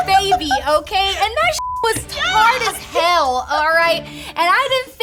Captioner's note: laughs; beep